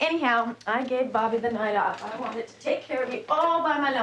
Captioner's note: wheelchair clicking